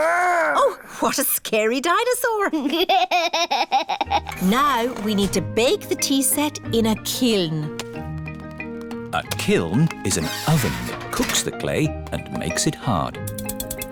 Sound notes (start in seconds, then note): 2.7 chuckles